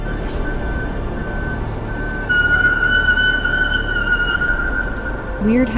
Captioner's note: emergency siren wailing